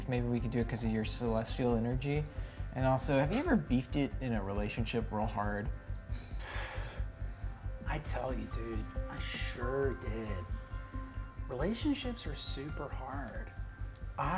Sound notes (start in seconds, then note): 6.1 exhales empathetically